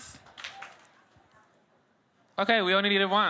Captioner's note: audience claps